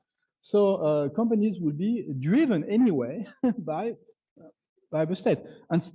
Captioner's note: chuckles